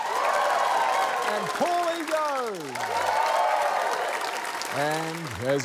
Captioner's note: cheering; cheering, applause